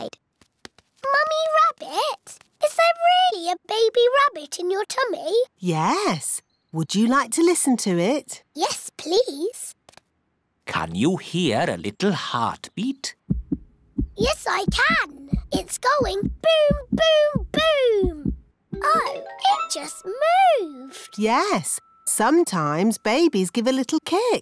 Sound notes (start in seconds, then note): 13.2 heart thumps